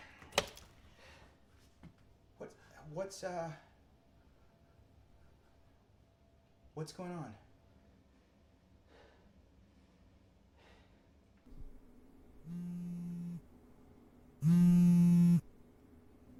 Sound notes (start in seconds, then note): 0.5 clicking; 12.7 phone buzzing